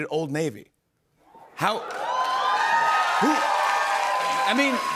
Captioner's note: cheers and applause